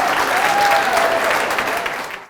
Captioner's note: applause